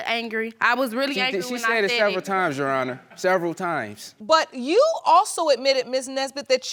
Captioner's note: none